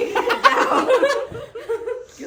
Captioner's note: laughs